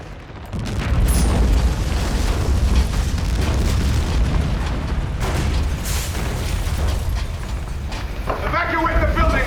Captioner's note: rumble